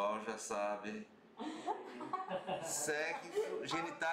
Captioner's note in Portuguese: risos